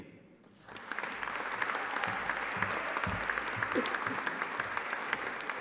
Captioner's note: audience applauding